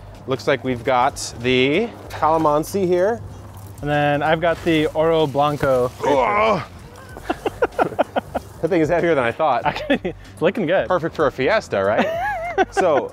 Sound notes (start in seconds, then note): 6.0 grunting; 6.0 laughing